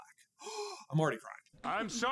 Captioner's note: gaaaaaaasp